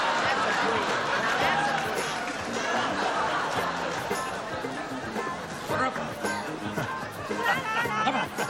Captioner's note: laughter